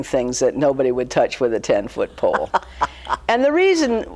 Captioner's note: laughing